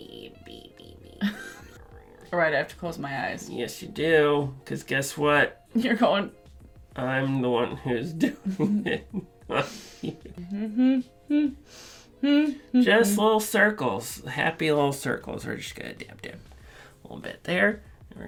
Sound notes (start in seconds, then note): 0.1 mutters; 10.4 humming